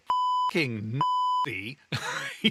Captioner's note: beep